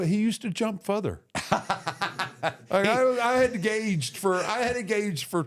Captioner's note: Michael Hayes laughs